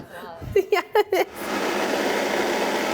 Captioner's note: laughing; blender whirring